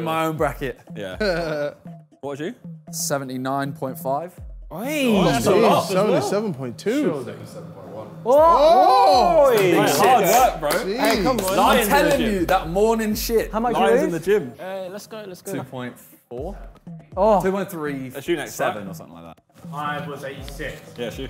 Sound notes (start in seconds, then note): 8.2 group clamours